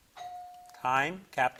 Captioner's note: buzzer blips